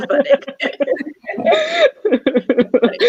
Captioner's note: laughing